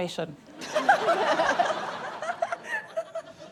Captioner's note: laughter